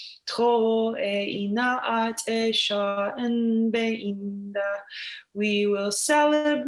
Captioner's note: in foreign language